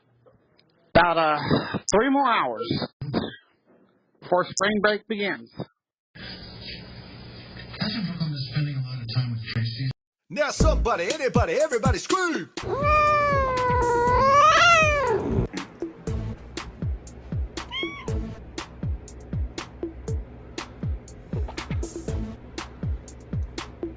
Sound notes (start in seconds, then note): 5.7 "General Hospital" plays in background; 12.6 Caprice meows angrily; 17.6 Caprice meows